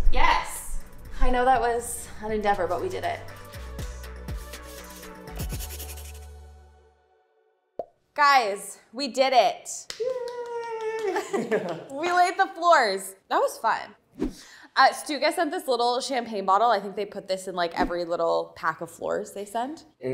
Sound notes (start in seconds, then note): 3.5 upbeat music; 4.6 pen scraping; 10.8 both chuckles; 14.1 zooming sound effect